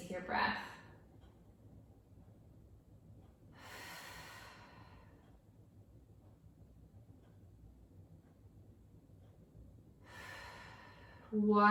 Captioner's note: breathing